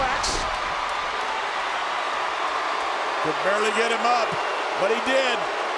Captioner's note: applause